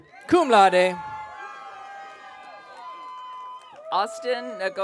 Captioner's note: audience cheering